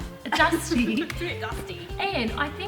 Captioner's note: chuckles